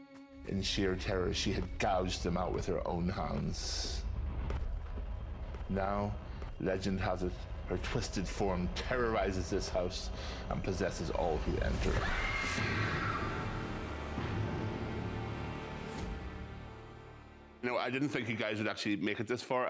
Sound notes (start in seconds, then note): 11.8 screams